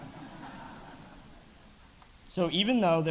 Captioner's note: audience laughing